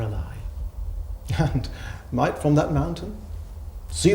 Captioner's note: chuckling